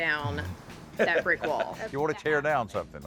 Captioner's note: laughs